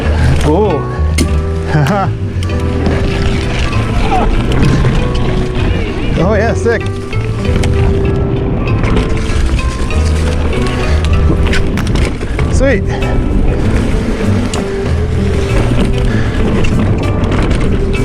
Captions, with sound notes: Whoa. (laughs) Oh, yeah. Sick. Sweet.